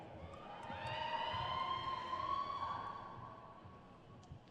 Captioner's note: crowd cheers